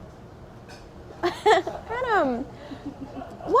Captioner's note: laughter